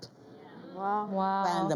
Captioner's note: audience gasping